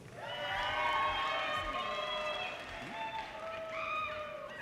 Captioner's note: audience cheers and applause